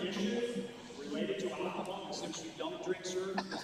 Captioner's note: off microphone